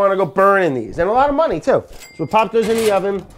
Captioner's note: register bell dings